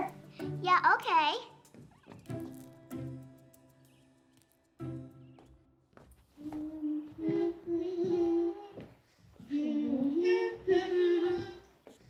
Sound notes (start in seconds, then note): 6.7 both humming